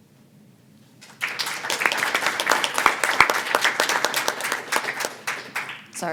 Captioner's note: applause